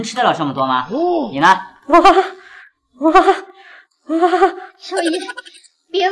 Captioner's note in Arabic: هاهاها